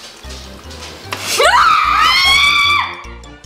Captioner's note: screaming